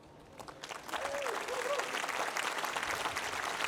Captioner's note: applause